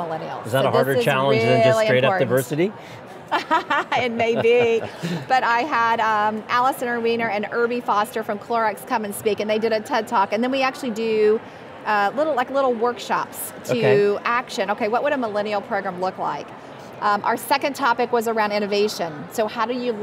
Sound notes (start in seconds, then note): 3.3 laughs